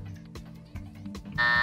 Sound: buzzer

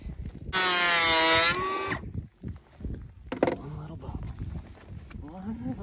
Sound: planer whizzing

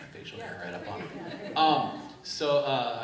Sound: laughing

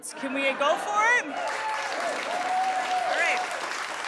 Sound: audience cheering and applauding

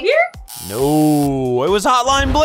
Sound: buzzer

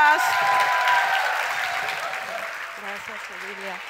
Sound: crowd cheers

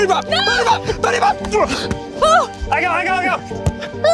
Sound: yelling

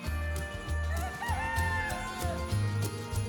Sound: rooster crows

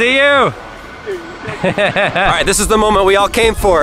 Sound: laughs

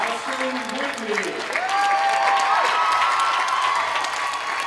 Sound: applause, cheering

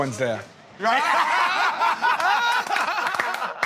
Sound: laughter

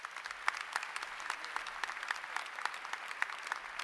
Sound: applause

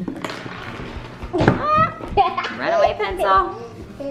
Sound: laughs

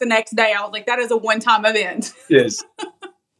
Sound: laugh

